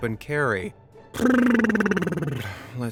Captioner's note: blows a raspberry